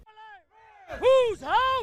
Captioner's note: nats chant